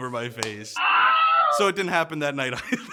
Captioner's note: screams